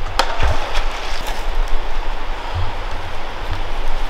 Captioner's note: water cracks